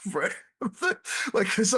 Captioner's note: laughs